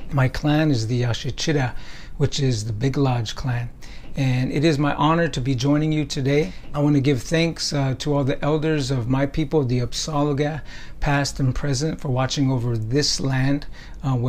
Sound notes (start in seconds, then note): none